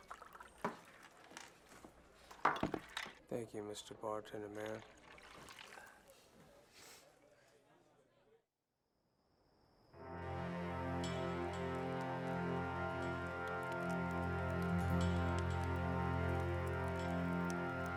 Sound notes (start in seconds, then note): 10.3 crackling fire